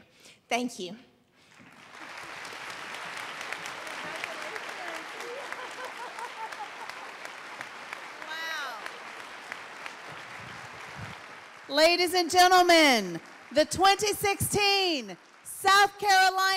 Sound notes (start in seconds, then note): 1.5 applause; 5.9 applause